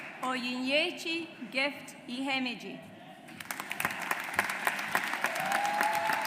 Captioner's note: audience applauds